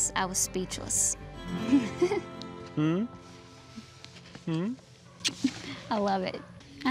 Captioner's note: giggles